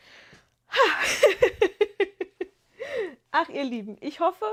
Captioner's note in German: gelächter